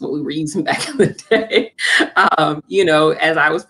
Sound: laughter

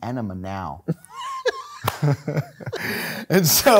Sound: laughing

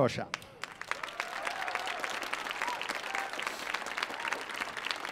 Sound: audience applauding

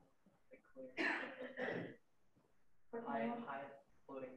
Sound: clears throat

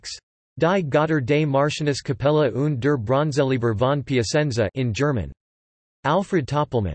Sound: in German

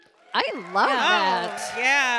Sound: audience applauding and cheering

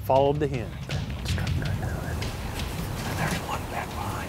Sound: whispering

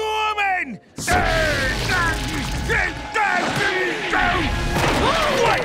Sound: grumbling

